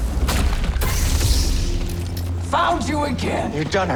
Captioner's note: weapons exploding; lightsaber igniting